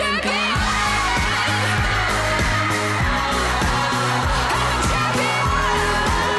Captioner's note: upbeat music; women cheering